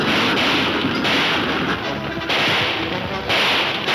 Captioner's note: gunshots banging